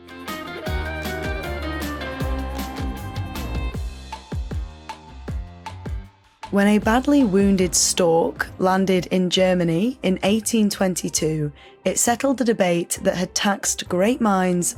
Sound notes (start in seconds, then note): none